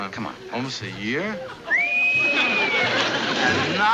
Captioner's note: whistles